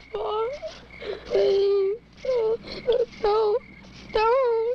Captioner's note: sobs